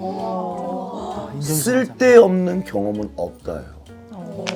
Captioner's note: haha